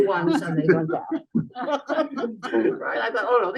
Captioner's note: laughter